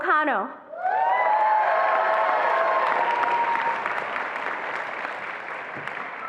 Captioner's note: attendees applauding and cheering